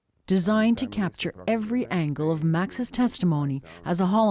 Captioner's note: speaking alternate language